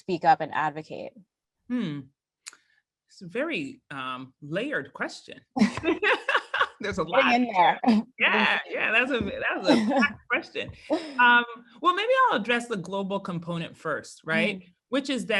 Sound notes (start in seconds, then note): 5.6 laugh